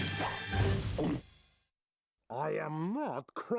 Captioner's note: gulping